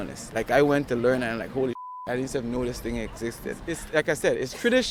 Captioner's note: beep